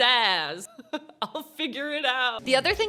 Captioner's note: chuckles